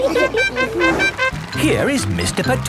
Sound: all laughing; horn tooting

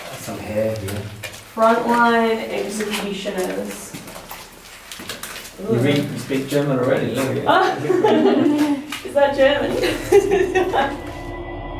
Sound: laughs

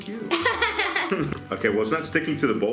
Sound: laughs

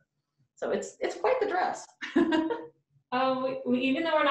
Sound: laughs

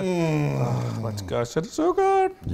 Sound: groans

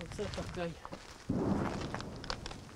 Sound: explosion sound

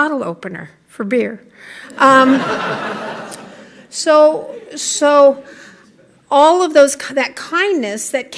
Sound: laughter

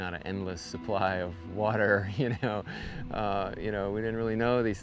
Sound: chuckles

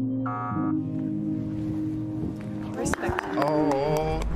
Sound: buzzing sound

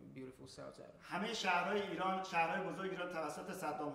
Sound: speaking in farsi

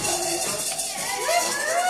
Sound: cheering

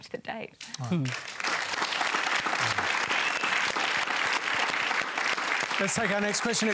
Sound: applause

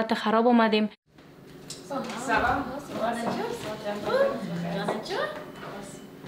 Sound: speaking in foreign language

